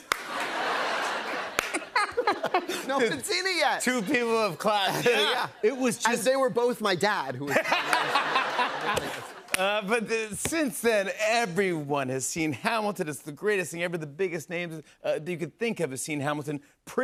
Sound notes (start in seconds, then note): 0.0 single clap; 0.2 laughter; 7.4 laughter